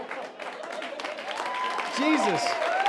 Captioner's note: audience cheering and applauding